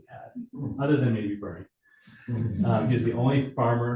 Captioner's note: audience chuckling